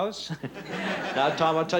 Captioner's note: laughter